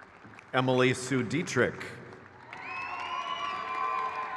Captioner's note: crowd cheers